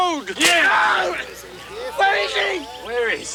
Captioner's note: Bruto screams